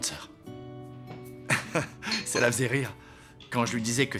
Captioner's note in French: rires